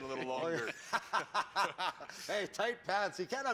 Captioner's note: laughter